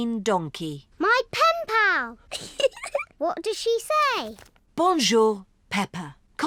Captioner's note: giggles